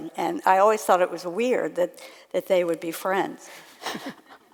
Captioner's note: laughs